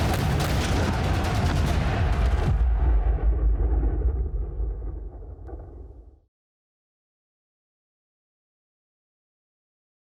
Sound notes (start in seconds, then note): 0.0 explosions